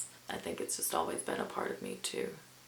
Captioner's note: none